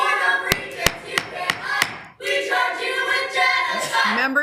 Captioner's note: gavel tapping